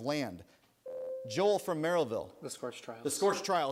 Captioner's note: buzzer sounds